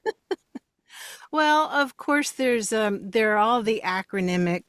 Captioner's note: laughs